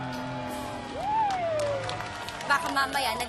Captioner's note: crowd cheering, clapping